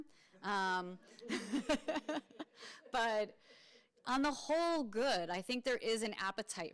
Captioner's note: laughs